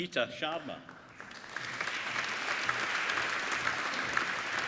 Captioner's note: applauding